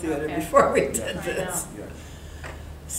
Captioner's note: laughing